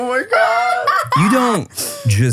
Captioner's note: laughing